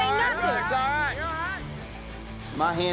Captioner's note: cowboys shout encouragement